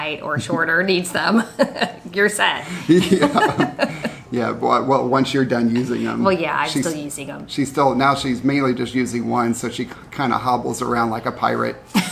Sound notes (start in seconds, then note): 2.6 laughs; 2.7 chuckles